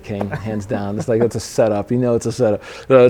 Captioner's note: interviewer laughing